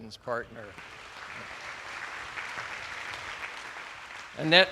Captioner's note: attendees applauding